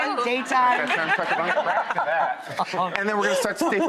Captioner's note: laughter